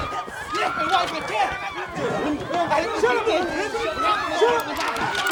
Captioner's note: all shouting